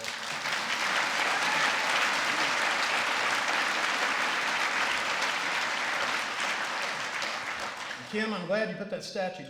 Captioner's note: applause